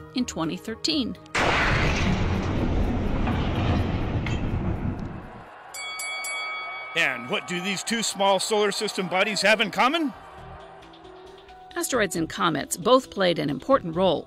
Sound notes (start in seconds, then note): 1.3 explosion; 5.7 bell rings